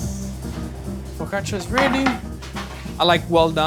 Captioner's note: pizza holder clatters